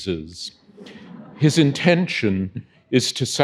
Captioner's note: audience chuckling